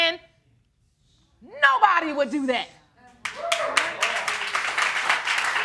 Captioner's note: audience cheering